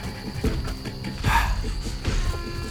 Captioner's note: sighs